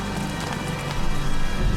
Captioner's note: shoes clinking